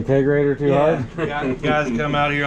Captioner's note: men laughing